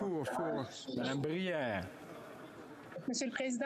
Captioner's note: speaking French